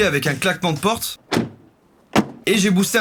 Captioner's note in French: Son de portière